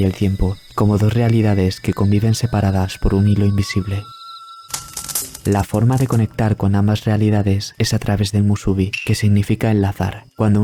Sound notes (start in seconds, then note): 4.7 fire